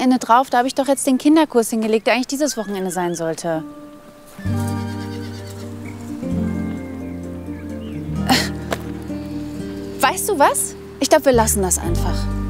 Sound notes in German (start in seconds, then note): 6.1 Bewegte Musik; 8.2 Genervtes Seufzen